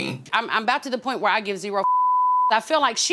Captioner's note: beep